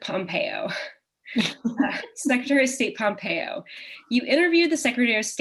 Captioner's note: chuckle